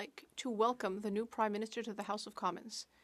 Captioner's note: speaking French